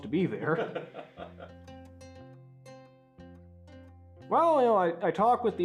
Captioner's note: laugh